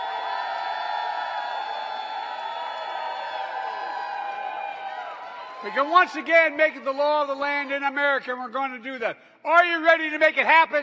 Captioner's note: applause